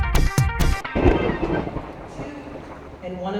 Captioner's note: lighting booms